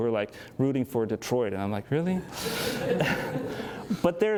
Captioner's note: laughter